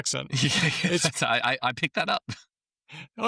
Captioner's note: laughs